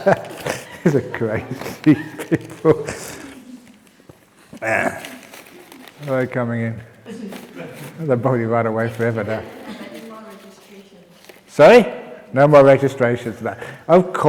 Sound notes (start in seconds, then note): 0.0 laughter; 4.4 laughs